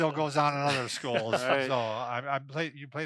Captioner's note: laughs